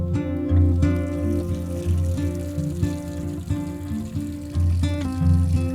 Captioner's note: sink water splashing; gentle music continues